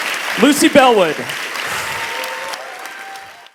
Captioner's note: applause